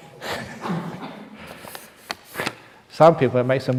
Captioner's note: laughs